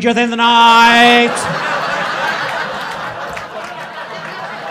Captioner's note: crowd laughing